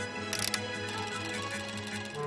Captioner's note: clicking